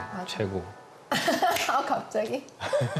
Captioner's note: hahahahaha